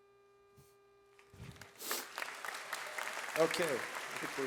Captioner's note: audience applauds